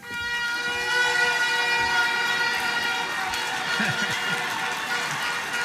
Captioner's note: applause